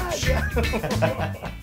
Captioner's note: laugh